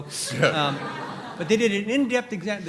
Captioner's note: all laughing